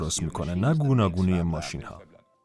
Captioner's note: foreign language